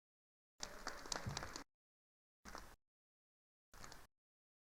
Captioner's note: attendees applauding